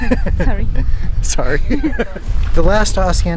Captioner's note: laughs